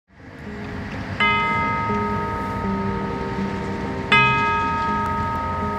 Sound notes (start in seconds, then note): 1.2 bell rings